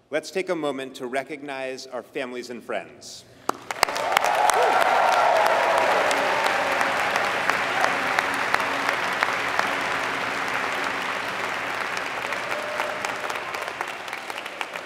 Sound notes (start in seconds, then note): 3.4 applause